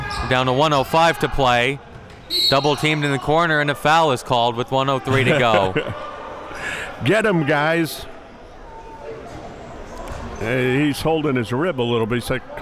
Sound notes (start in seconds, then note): 2.3 whistle blows; 5.0 laughing